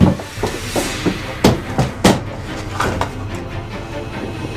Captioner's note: banging; dramatic music